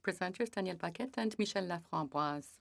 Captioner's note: speaking French